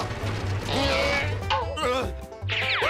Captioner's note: grunting